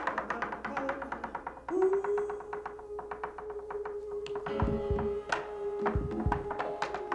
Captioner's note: rhythmic tapping; light jazz music